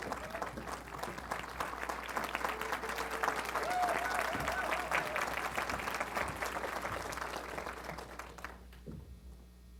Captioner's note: applause